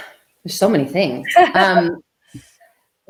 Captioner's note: laughs